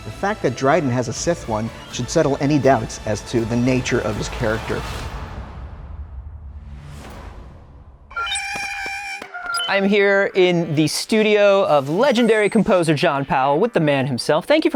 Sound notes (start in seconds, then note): 8.1 Porg sounds